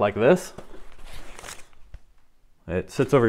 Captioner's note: cushion rustling